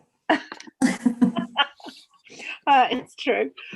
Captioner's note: both laugh